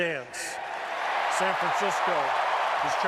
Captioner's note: cheering